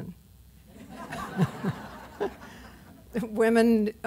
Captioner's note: laughter